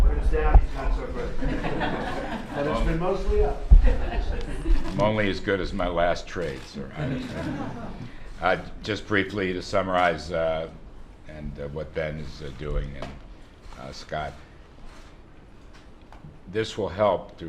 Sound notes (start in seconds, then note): 6.9 laughter